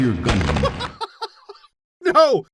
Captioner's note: bursts out laughing